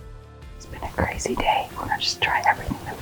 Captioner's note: whispering